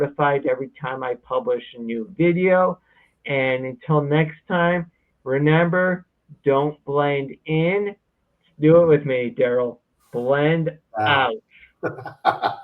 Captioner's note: laughs